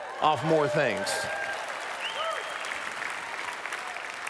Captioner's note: applause